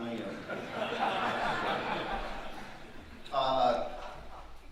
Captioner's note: audience laughing